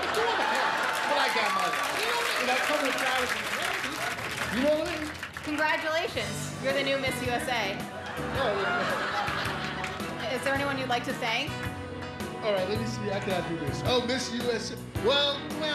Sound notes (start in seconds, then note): 9.2 applause